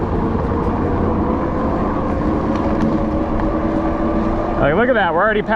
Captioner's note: electric motor whirs